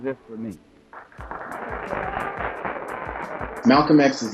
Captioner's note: audience clapping